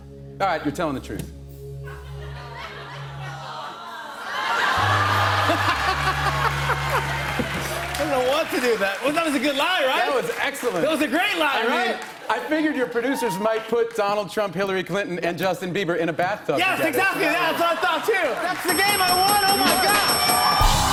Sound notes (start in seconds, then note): 4.0 laughter; 20.6 cheers and applause